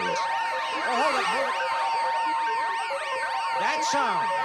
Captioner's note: alarm ringing